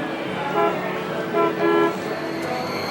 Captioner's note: honking sound